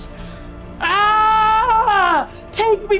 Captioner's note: screaming